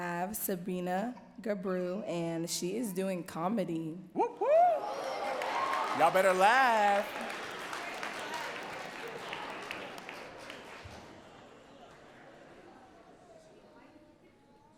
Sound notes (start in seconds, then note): 6.6 audience cheering and clapping